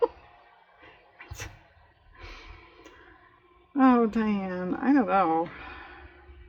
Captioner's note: laughs; sighs